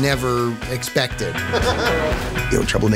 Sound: laughs

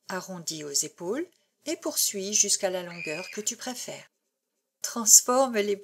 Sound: yelling

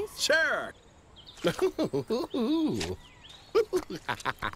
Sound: laughs

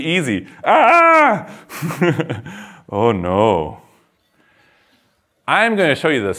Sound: chuckles

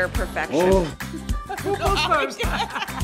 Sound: laughing

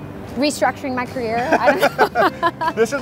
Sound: laughter

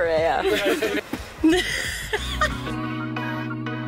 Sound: laughing; chilled breakbeat music

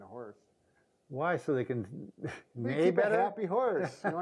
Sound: laughs

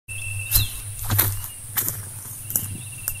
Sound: footsteps

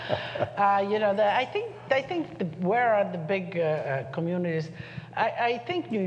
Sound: laughs

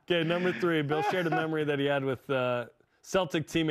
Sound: laughter

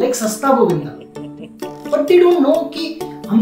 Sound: laughs

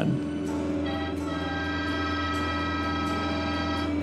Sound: whistle blows

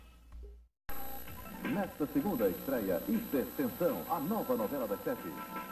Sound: male announcer speaking Portuguese

